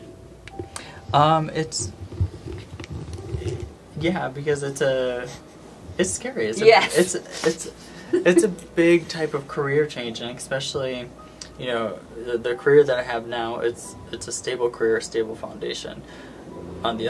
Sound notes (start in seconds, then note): 5.3 cameraman titters; 7.9 they laugh